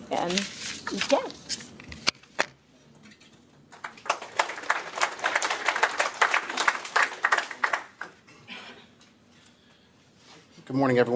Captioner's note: �applause�